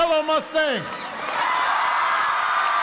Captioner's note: applause